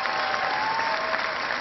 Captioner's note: cheering